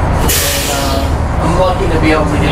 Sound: machinery sputters

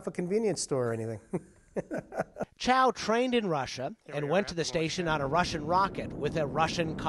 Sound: laughter

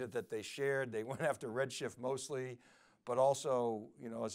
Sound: laughs

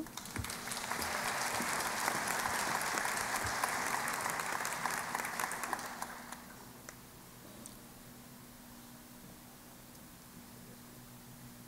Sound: applause

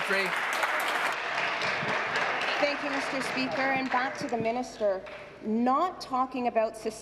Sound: applause

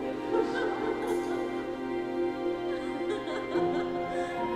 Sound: lady laughs

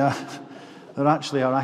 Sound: chuckles

